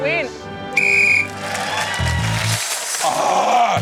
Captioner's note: blows whistle; cheering, applause